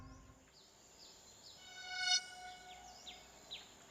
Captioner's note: birds chirping